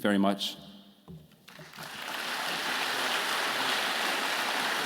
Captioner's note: audience clapping